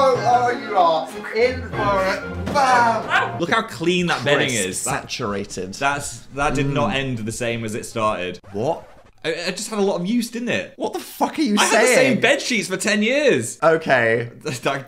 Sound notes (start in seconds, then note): 0.0 dramatic music; 7.4 record scratches